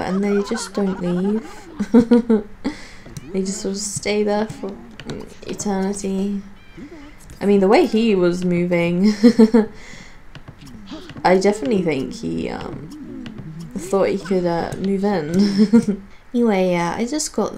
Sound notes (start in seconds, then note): 0.9 laughs; 9.3 laughs nervously